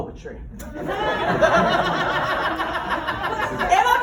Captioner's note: laughter